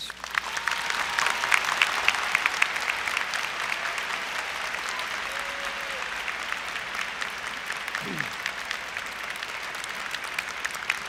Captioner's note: applause